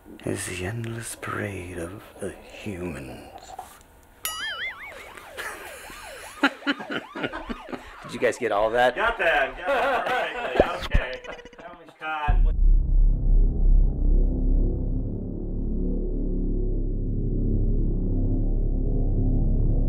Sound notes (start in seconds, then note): 4.2 alarm sounding; 4.9 laughing; 12.8 sinister music